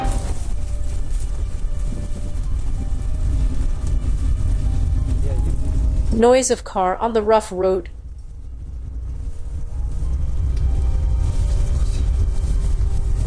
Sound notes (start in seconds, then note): 6.1 noise of car on the rough road